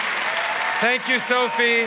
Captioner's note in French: Acclamations et applaudissements enthousiastes